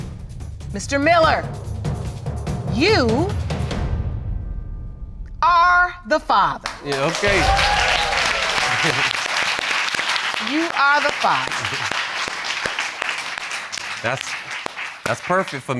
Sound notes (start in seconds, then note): 7.9 cheering